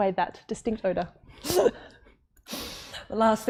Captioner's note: laughing